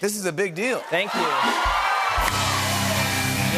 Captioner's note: cheers and applause